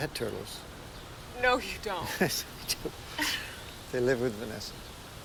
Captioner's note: chuckles